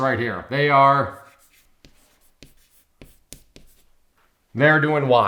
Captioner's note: chalk scraping on chalkboard